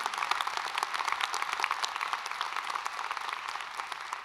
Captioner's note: applause